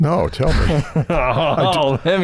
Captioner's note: chuckles